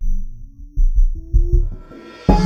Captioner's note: none